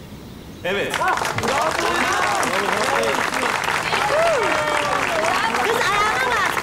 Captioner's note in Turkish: alkış sesi